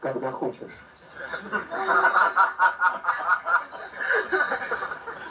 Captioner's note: laughter